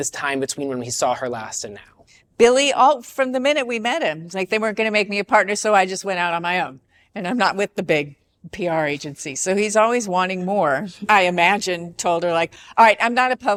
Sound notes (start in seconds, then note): none